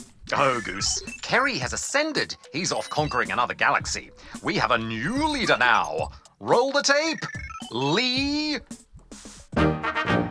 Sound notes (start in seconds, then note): none